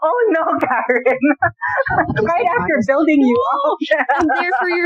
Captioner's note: laughter